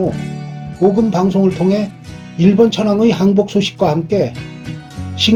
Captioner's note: voice of the King